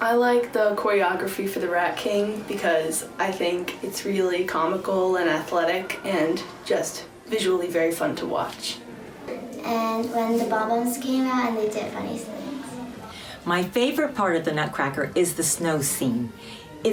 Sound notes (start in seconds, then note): 11.5 faintly speaking